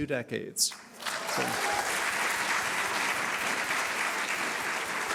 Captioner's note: audience applauding